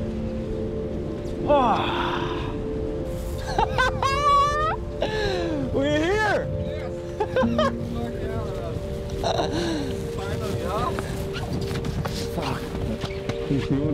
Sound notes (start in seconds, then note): 1.5 sighs aloud; 3.4 laughs